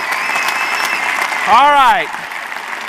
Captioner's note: audience continues to cheer